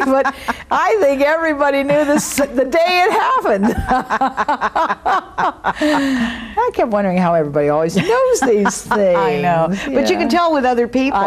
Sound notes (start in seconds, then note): 3.5 laughing